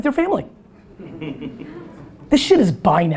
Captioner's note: audience laughter